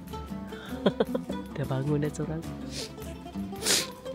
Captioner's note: laugh